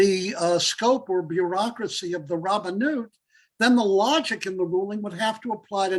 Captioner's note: Hebrew